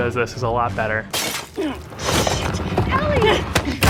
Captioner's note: tile breaks